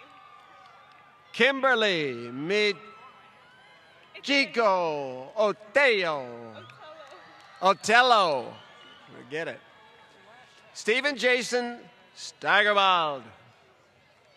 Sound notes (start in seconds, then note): 0.0 applause